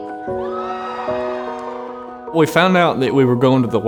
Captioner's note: cheering